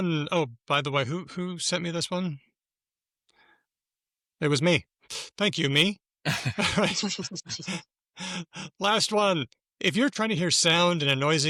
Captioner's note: laughter